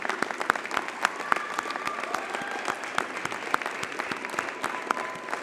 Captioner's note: cheering and applauding continues